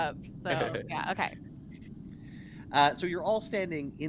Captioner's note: Cornette laughs